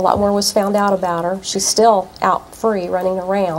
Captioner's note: none